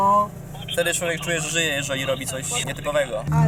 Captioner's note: voicemail sounds in the background